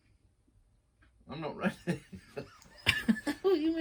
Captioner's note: laugher